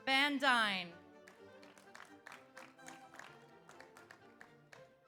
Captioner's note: audience applauds